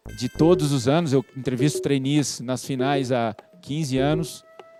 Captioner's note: man speaking Portuguese; speaking Portuguese